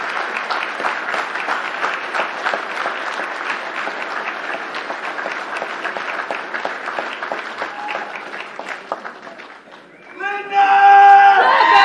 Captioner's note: applause